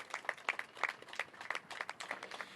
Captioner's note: applause